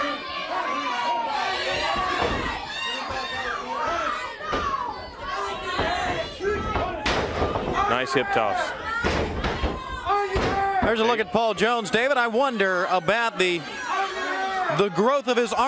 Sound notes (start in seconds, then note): 0.0 crowd chatter; 9.8 crowd chatter